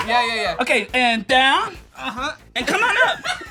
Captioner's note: groans